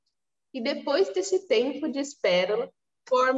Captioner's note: speaking portuguese